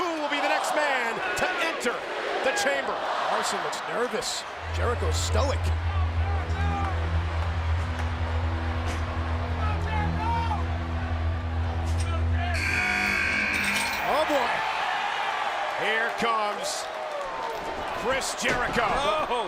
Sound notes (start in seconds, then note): 6.3 anticipatory music; 6.3 crowd murmuring; 12.5 buzzer sounds